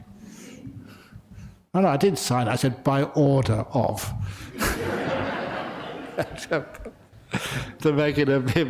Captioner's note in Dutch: lachen